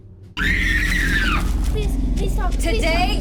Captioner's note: victim screams